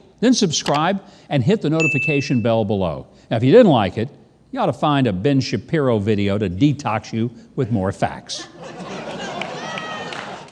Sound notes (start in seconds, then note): 8.4 audience laughing